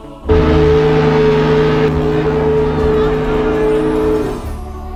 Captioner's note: whistle blowing